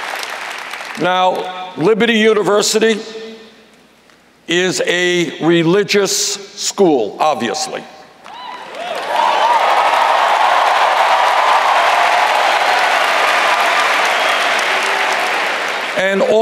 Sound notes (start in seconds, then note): 8.2 cheers